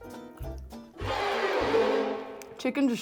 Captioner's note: lighthearted music continues; screeching sound